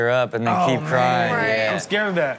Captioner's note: crowd laughs